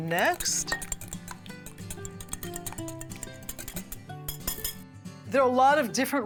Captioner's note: whisking the mixture